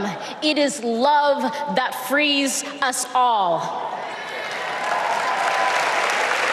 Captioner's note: applause